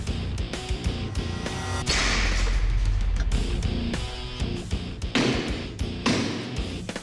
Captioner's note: blade impact sounds